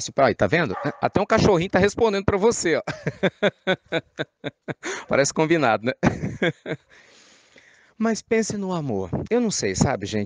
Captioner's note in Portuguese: risadas